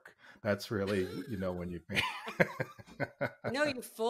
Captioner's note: laughing